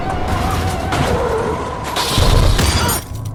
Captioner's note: tires screeching; glass shattering